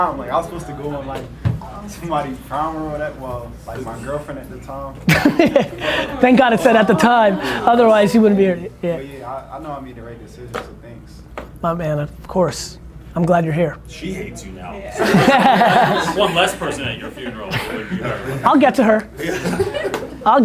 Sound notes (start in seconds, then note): 5.0 laughs; 14.9 group laughter